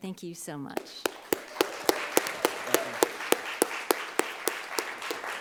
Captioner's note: audience applauds